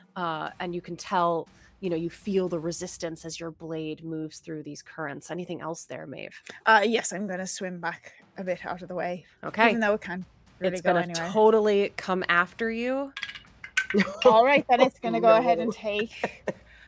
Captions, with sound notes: And you can tell, you feel the resistance as your blade moves through these currents. Anything else there, Maeve? - Yes, I'm gonna swim back a bit outta the way. - Okay. - Even though we can't really go anywhere. - It's gonna totally come after you. (dice clatter) - All right, then it's gonna go ahead and take...